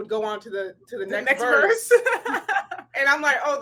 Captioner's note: laughs